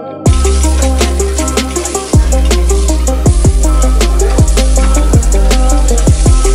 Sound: meat sizzling

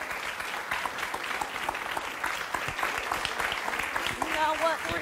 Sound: audience applause

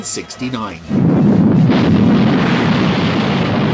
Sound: fire roars

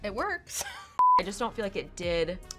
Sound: TV beeps

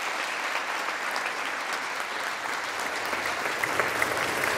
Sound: applause

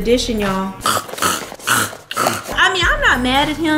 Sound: croaking

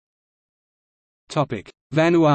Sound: in German

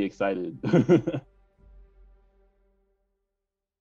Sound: laughing

